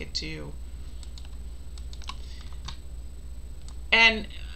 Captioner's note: mouse clicking